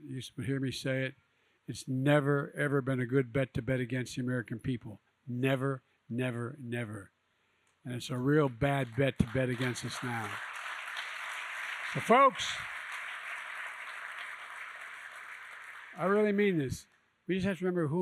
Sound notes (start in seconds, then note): 10.9 applause